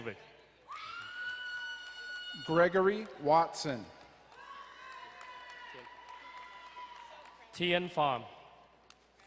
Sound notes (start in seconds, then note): 0.6 woman cheering; 4.7 crowd cheering and applauding